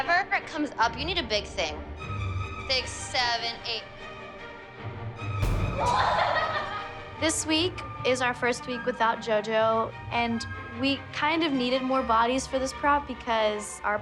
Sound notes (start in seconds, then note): 5.8 girls laughing